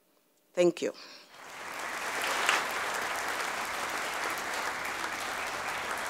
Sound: audience applauding

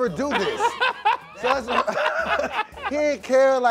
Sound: laughing

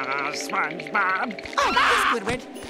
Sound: screaming

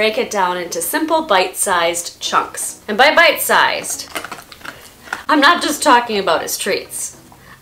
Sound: Yeti crunching on his treats

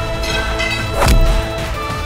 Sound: thud

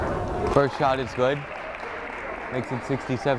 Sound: crowd applauding

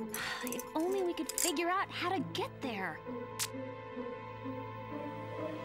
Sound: sighs

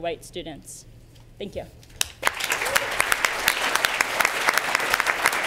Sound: applause

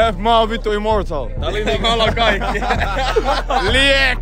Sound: laughter

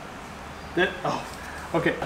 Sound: laugh

